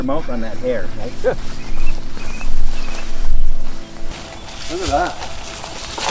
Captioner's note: birds chirping; brush crunching